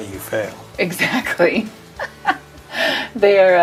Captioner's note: laughs